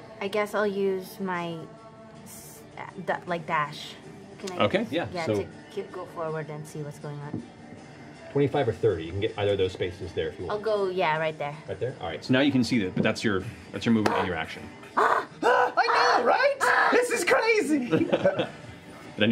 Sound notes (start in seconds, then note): 14.9 screams; 17.7 laughter